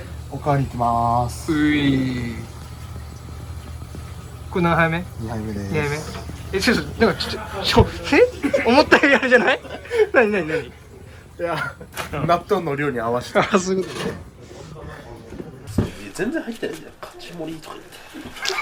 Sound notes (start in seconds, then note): 10.8 laughs; 18.2 laughter